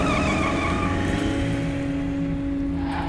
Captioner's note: tires squealing